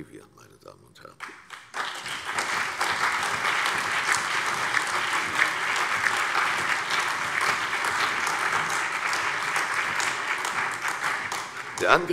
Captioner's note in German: Allgemeiner Beifall